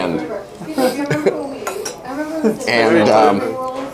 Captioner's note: laughter